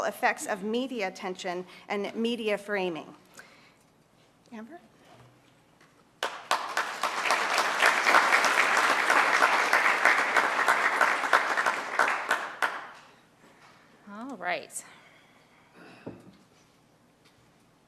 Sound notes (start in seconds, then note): 6.2 applause